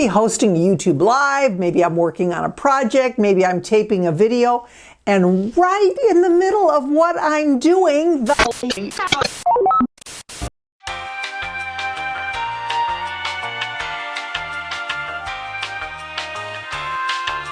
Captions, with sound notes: hosting YouTube Live. Maybe I'm working on a project. Maybe I'm taping a video, and right in the middle of what I'm doing th--[static] [elevator music]